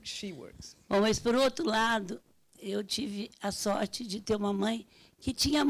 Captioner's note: speaking Portuguese